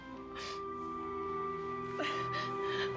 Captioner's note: sobbing